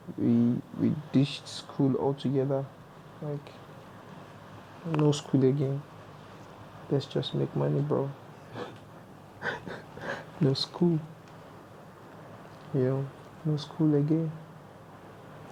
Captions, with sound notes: we ditched school all together like no school again let's just make money bro (chuckles) no school no school again